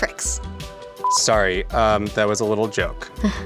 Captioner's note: beep